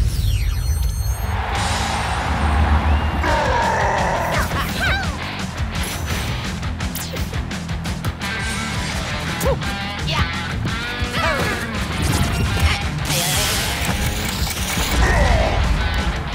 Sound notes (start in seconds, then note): 0.9 lively rock music; 0.9 crowd cheering; 3.2 Bowser roars; 3.2 character arrival sounds; 12.9 Bob-omb ticking; 12.9 electrified yelling; 15.0 Bowser roars